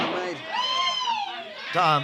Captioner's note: gunshot